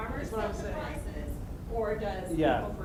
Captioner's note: voiceover